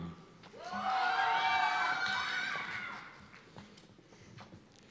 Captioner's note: cheers and applause